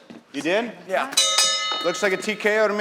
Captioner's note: ding ding